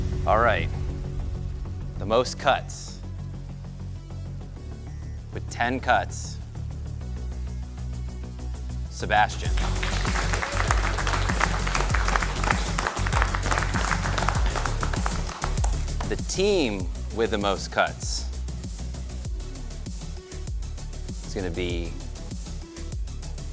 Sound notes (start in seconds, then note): 2.8 dramatic music; 9.4 applause